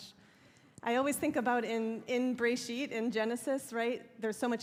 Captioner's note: hebrew